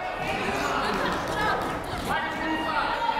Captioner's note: yelling